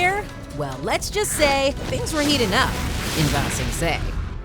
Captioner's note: none